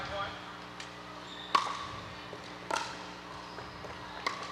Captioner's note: ball bouncing